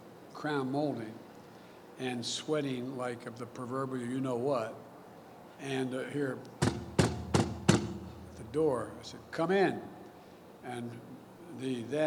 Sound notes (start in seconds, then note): 6.6 bang bang